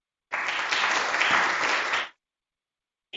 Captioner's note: applause